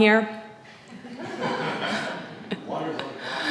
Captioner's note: audience laughing